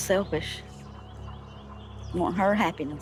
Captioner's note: birds chattering